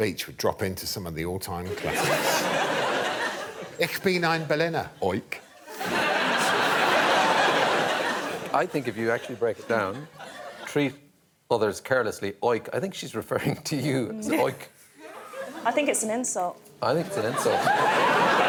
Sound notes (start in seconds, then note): 5.7 speaks foreign language; 7.4 laughter